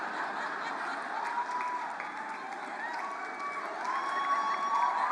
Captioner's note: cheers and applause